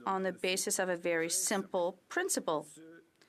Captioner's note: speaking French